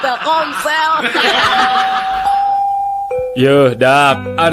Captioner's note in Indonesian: tertawa